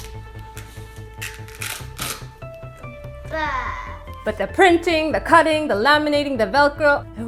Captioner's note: tearing PECS picture